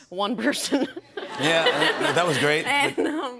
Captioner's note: laughter